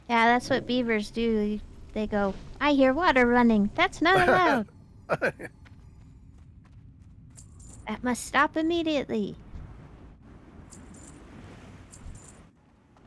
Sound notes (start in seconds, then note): 5.1 laughing